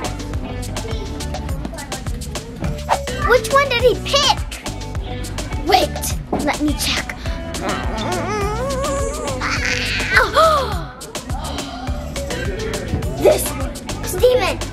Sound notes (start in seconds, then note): 10.2 gasps